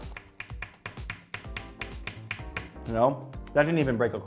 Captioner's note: tapping crisp on table